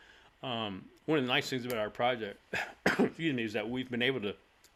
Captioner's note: cough